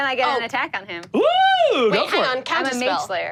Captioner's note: screams